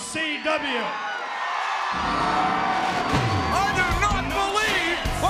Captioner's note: audience cheering